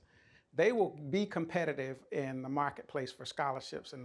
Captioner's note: none